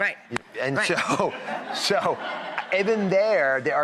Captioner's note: audience laughing